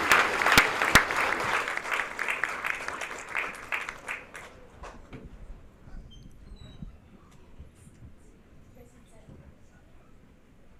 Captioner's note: applause